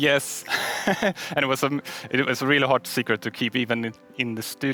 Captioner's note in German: lacht